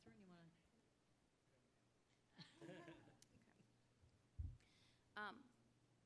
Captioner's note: laugh